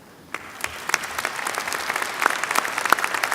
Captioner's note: applause